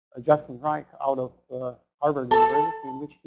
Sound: computer beeps loudly

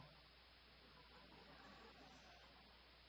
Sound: soft laughter

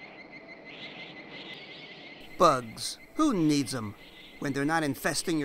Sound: insects chirping

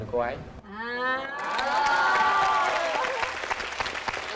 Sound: claps and applauses

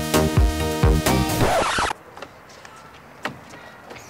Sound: record screeching to a stop

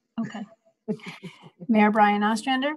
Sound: laughs

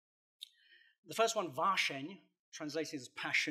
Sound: non-english speech

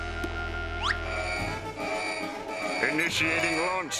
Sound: alarm ringing

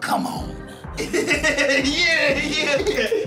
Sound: laughs

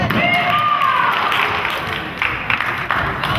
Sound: crowd claps

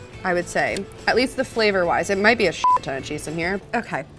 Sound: beep

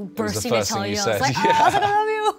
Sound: laughs

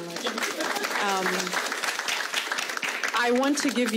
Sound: audience applauding

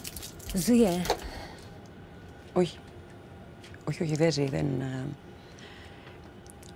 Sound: Vanina and Kaiti speaking foreign language

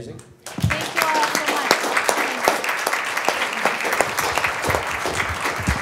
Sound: applause

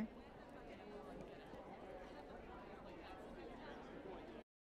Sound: crowd chatters

